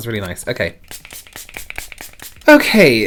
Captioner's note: bottle spraying